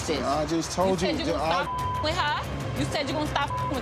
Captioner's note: beep